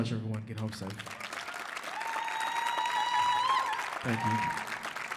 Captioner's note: audience cheers